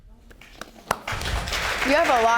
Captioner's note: audience applauding